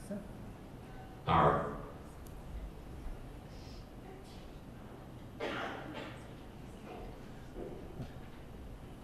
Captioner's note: computer voice